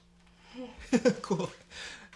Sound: laughing

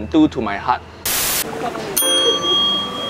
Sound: static glitching; soft music

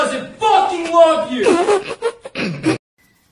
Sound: spitting laughter

